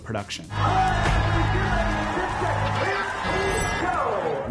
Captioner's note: people cheering